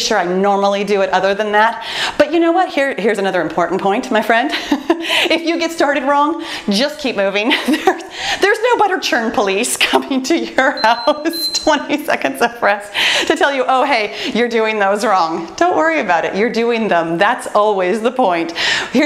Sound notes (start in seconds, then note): 5.1 laughs; 8.0 laughs; 10.7 timer beeps; 11.0 laughs